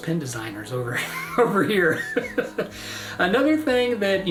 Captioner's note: laughs